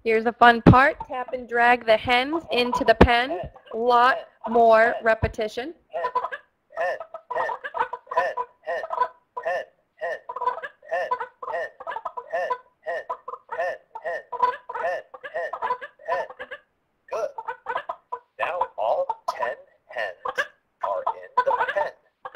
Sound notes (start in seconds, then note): 0.2 voiceover; 6.3 voiceover; 10.0 hens clucking